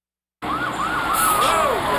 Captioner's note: sirens